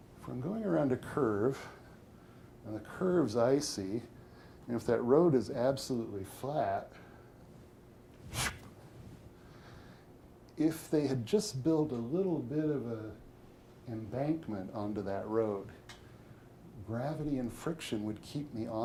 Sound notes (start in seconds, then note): 7.9 whistles